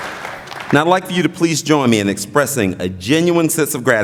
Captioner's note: applause